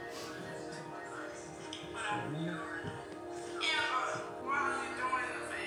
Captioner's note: talking on speakers